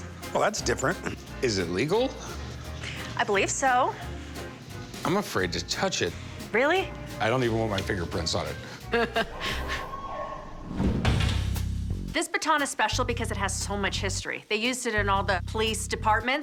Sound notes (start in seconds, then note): 8.6 laughs; 9.7 siren blares